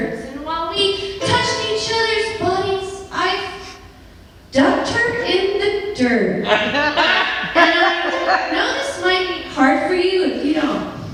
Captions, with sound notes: And while we touched each others bodies I ... ducked her in the dirt (Laughter) And I - know this might be hard for you if you don't